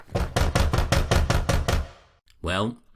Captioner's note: person knocking loudly